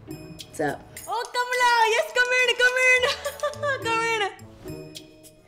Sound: laughs

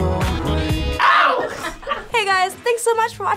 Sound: laughing

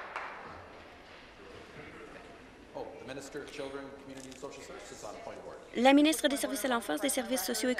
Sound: applause

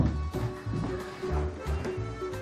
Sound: none

